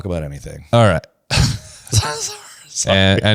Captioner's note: laughs